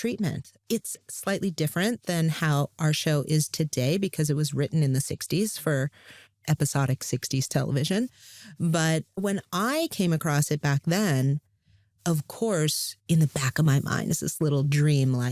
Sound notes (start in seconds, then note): none